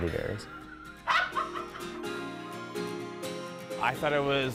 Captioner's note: laughing